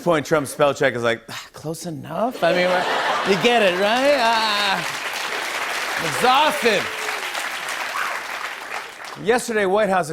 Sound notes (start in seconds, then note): 2.4 laughter; 5.2 cheers and applause